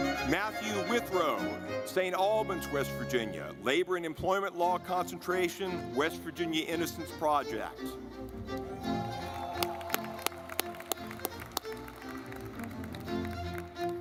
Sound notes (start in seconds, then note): 8.1 lively music; 8.2 audience clapping